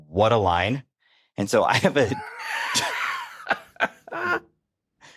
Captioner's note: laughs; chuckles